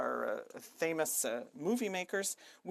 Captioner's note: speaking in French